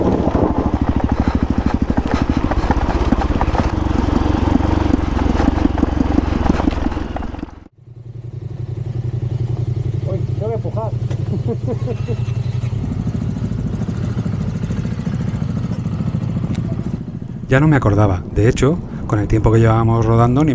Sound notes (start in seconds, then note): 11.3 laughs